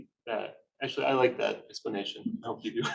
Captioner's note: chuckles